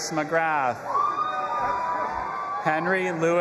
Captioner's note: audience applauding and cheering